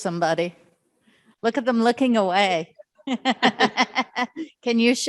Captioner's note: laughs